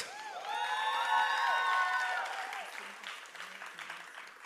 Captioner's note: applause